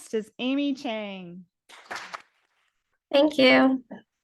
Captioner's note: audience applauding